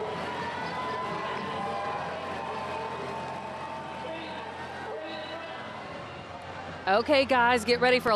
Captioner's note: cheers; background music